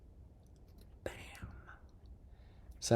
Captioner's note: whispered